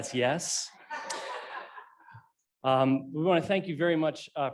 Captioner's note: laughing